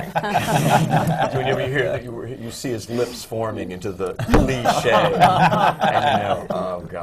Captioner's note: laughter